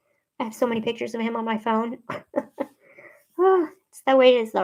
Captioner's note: laughs